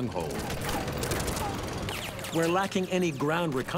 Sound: rapid gunfire exploding

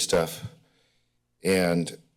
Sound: pause

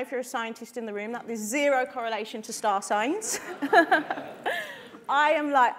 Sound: laughs

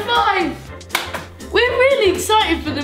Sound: smacking

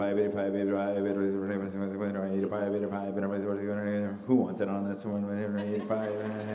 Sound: mimicking an auctioneer

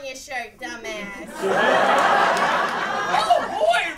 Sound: laughter

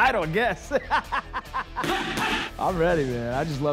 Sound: laughs

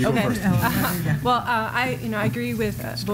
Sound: laughter

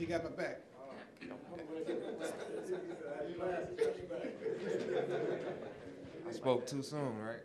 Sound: audience laughing

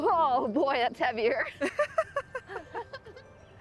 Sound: laughter

